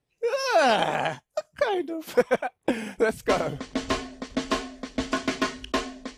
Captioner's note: laugh